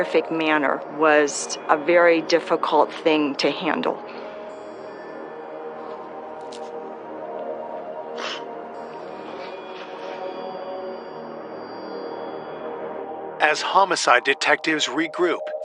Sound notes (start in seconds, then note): 6.2 crying